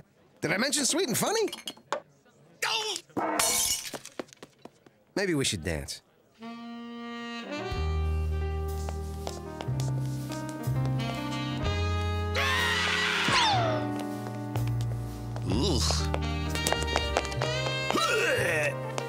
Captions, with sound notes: Did I mention sweet and funny? D'oh! (glass breaks) Maybe we should dance. (screaming) Eww! (gags)